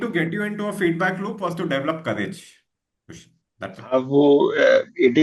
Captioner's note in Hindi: गला साफ़ करने की आवाज़